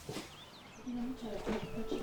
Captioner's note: birds chirping